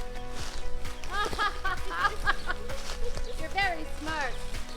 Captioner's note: laughs